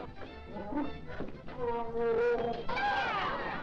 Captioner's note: crowd gasping; lion groaning; crowd cheering